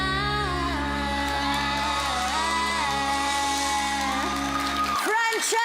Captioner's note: applause, cheering